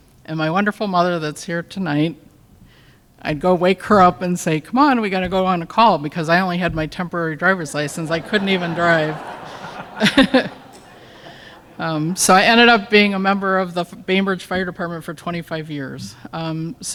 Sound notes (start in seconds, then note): 9.4 laughter